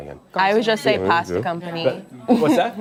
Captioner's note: laughter